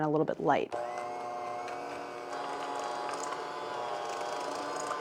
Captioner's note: mechanical whirling